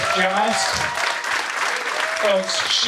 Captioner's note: audience applauding